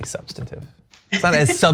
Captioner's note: laugh